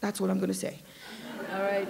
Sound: laughter

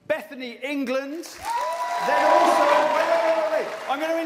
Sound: cheers and applause

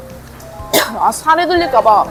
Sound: cough

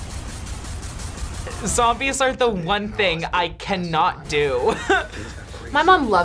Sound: chuckles

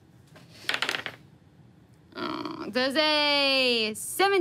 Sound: dice tapping table

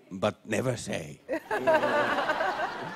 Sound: laughter

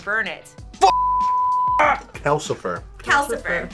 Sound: beep

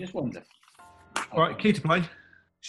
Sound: claps hand

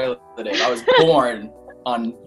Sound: laughing

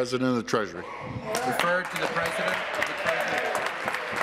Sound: some Applause

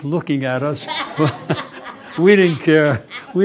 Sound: laughter

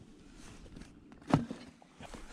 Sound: thud

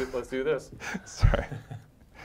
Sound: laugh

